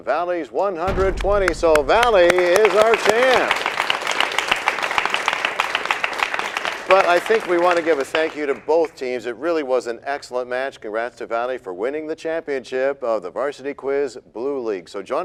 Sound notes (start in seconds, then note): 5.1 applause